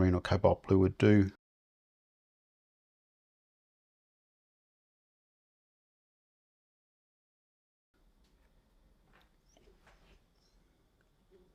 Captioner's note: silence